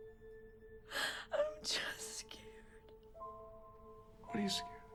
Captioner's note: sobs